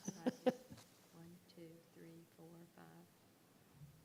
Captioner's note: laughing